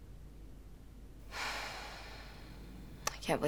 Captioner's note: sighs